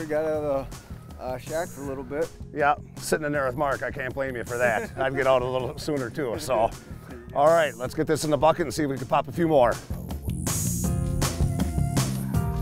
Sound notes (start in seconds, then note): 4.5 laughing